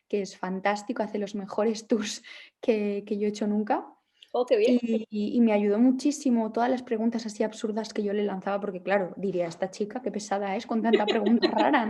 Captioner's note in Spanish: risas